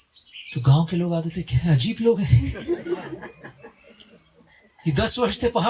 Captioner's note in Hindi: हंसी